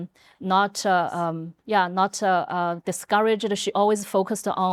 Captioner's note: whispering